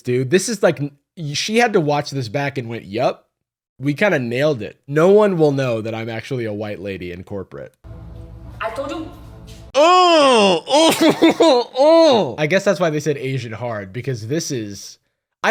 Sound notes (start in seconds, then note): 7.9 horrifically butchered "Asian" accent; 9.8 groans, laughs uncomfortably